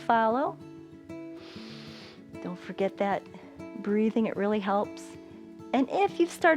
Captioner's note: inhales